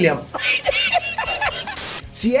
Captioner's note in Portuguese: risada